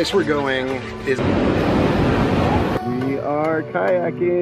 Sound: train roaring; bright music

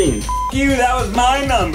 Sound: beep

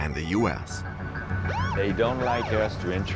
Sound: police siren whaling

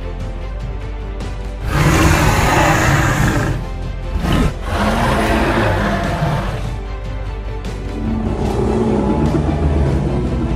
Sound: intense music playing; albertosaurus roaring

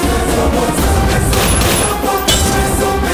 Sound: gunshot

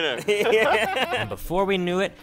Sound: laughing

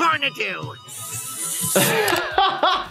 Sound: hissing sound; laughs

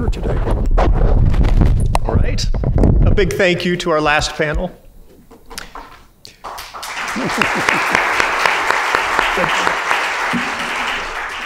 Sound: crowd applauds

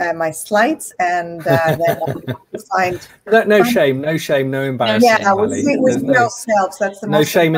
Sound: chuckles

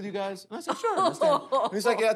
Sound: laughs

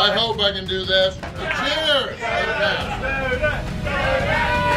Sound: crowd

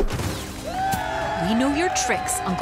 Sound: crowd cheering

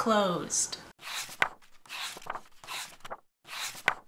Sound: page turning sounds

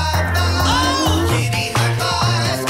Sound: cat mews

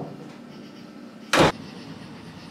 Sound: door shuts close

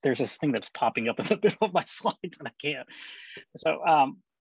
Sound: laughter

